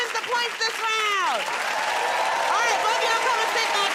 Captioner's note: cheering and applause